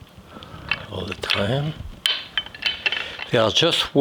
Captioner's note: shells clinking